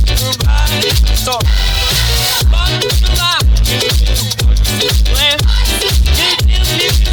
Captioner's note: voices blend